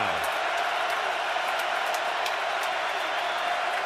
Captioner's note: crowd cheering